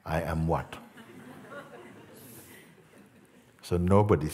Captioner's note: Lachen